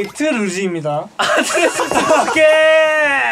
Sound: ahhhhhh

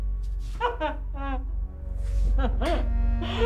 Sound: linda sobbing

